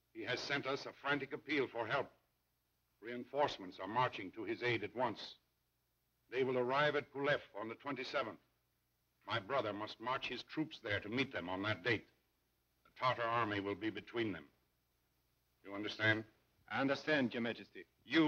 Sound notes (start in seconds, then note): none